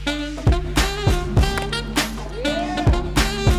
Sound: crack of the bat

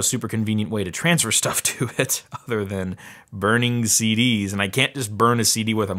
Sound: chuckles

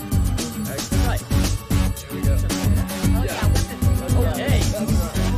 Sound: indistinct chatter

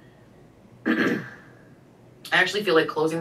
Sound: coughs

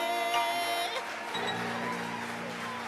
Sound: audience applauds

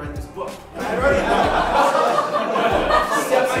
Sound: laughing

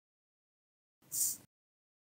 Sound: tss

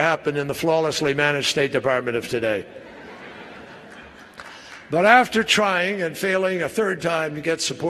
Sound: laughter

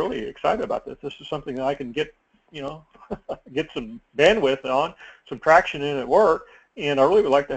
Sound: laugh

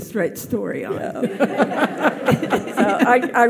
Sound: audience laughs

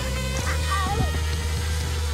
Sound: motor sound

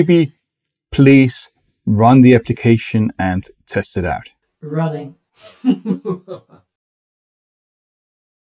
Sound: laughs sardonically

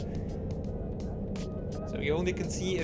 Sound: plane engine roaring

